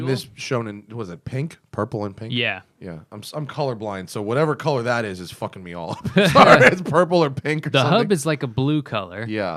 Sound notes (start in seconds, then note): 5.8 laughter